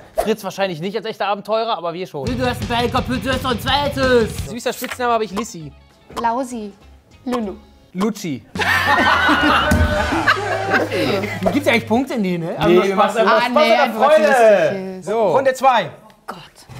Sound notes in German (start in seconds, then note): 8.6 Lachen, Tusch